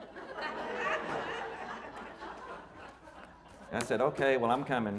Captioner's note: audience laughing